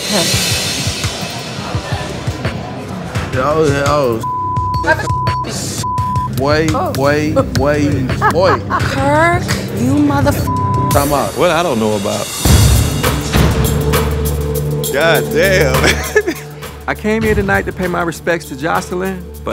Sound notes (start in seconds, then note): 0.1 rhythmic music; 4.2 beep; 10.4 beep; 12.7 dramatic music; 15.7 laughing